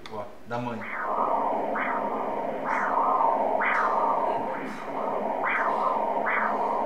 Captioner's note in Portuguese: batimentos cardíacos